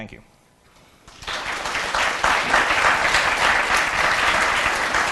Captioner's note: audience clapping